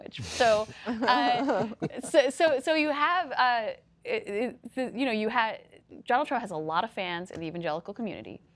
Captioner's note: laughter